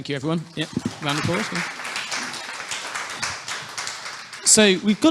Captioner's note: audience clapping